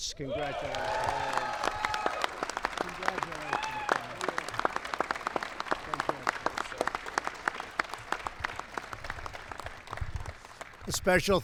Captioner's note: applause